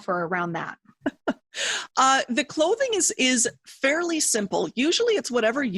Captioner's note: chuckles